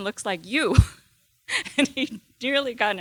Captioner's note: chuckling